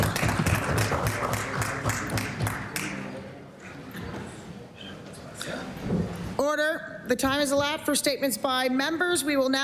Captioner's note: applause